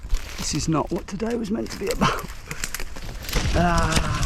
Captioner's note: laughs